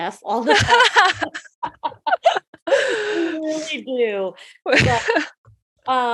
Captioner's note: laughing